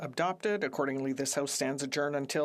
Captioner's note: speaking French